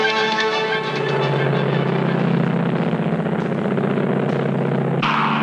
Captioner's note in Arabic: هدير الطائرة